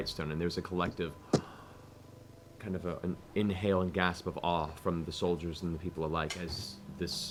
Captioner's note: gasps